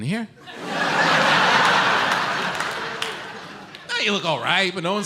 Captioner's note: audience laughs